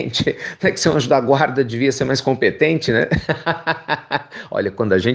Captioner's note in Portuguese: risos